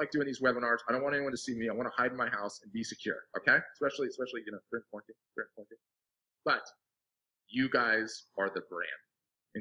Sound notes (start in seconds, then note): 5.2 speaking faintly